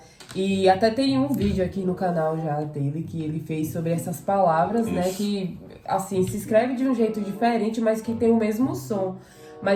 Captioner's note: in Croatian